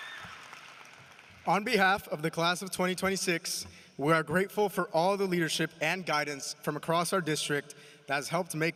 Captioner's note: applause